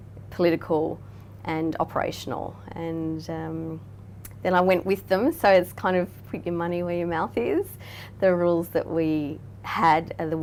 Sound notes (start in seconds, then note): none